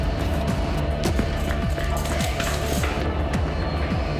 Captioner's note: footsteps